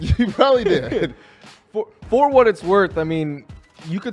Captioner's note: laughs